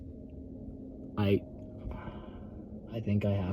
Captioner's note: sighs